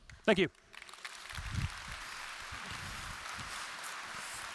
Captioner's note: applause